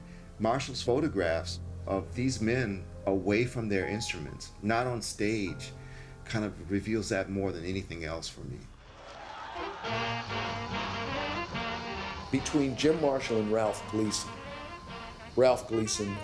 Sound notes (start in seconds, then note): 9.8 jazz music; 10.9 crowds cheer